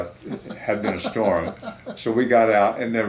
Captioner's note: laughing